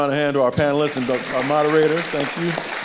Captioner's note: audience applauding